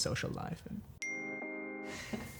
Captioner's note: phone pings